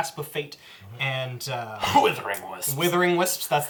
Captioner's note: coughs